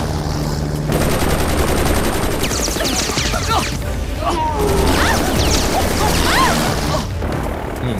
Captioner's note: Rapid gunfire